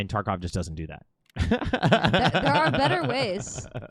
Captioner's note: laughing